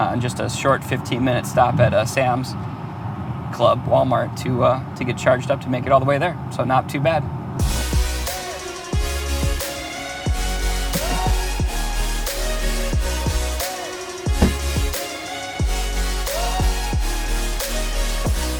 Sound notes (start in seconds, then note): 7.8 upbeat music; 14.3 car door slams; 15.8 upbeat music